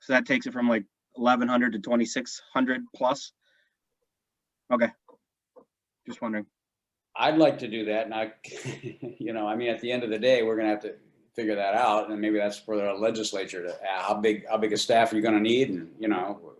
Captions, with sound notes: So that takes it from 1100 to 2600 plus. Okay, just wondering. - I'd like to do that and I, [laughs] I mean, at the end of the day, we're going to have to figure that out and maybe that's for the legislature, how big a staff you're going to need and,